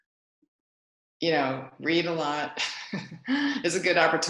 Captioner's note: laughs